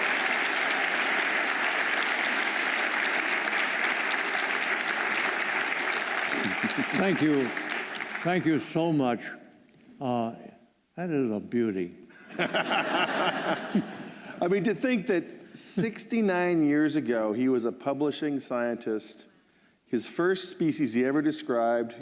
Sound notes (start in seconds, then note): 12.2 laughter